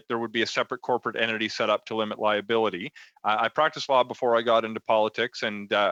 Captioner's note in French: voix de l'interprète